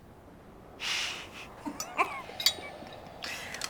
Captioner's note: laughing